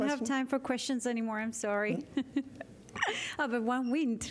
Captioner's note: laughter